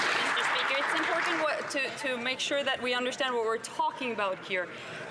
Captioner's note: some Applause